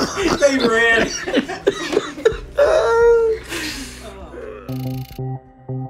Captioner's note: all laughing; laughs; light music